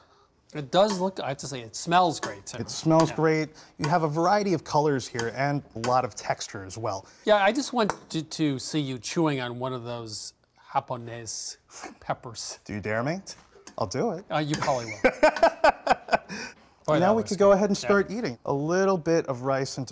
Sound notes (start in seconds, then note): 14.8 laughs